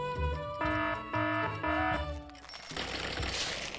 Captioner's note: upbeat music; alarm blaring; alarm ringing